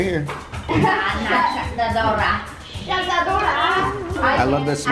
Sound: speaking Japanese

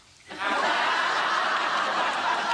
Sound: laughs

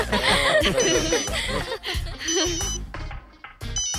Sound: phone ringing

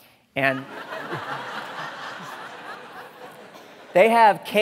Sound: audience laughing

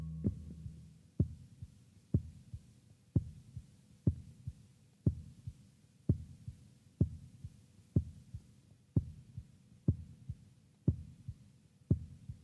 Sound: heartbeat

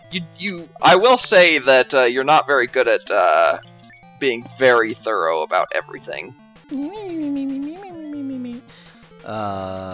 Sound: mimics a cat

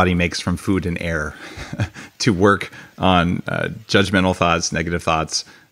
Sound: laughs

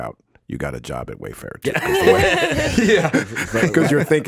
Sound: all laughs

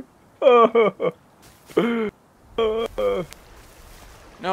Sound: weeping

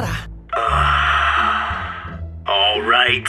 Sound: sighs in British relief

